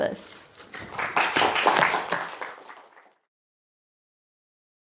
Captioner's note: students clapping